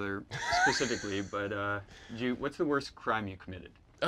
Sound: John laughs

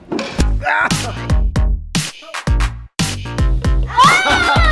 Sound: upbeat music; exclaims; laughing

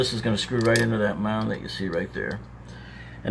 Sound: wire clicking

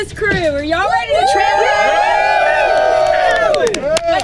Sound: everyone cheers

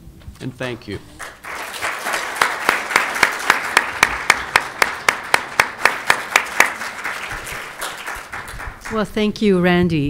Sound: applause

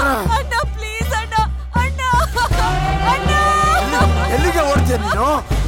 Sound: cries

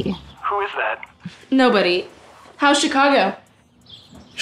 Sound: scoffs

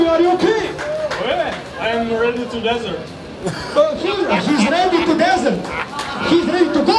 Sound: laughing

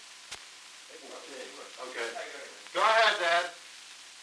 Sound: production chatter

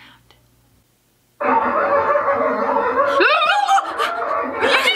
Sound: barking; trilling

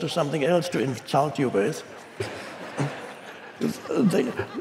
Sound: audience laughing

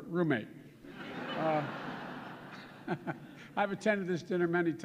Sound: laughter

